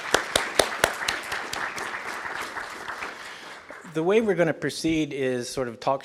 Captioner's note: applause